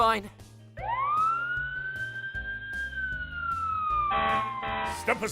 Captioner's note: fire Truck Siren and Honks